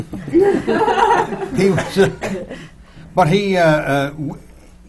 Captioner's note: laughter